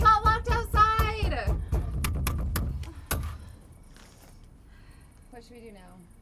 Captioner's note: both banging on door